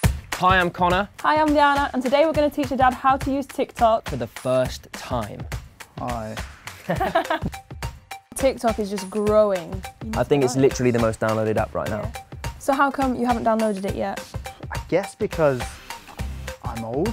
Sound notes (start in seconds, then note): 6.8 laughter